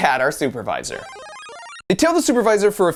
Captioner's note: video game power-up noise